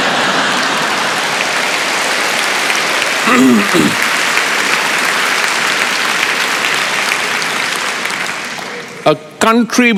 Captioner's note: laughter and Applause